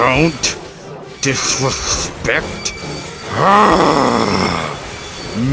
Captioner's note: roar